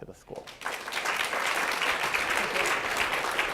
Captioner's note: audience clapping